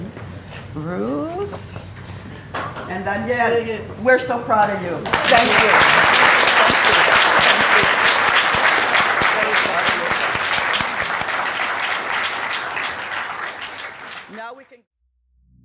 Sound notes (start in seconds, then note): 11.3 applause